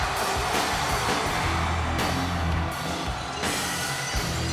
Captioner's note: audience cheers